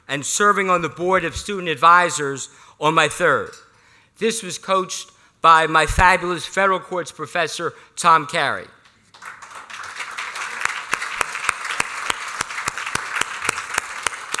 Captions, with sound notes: and serving on the board of student advisors on my third. This was coached by my fabulous federal courts professor, Tom Carey. [APPLAUSE]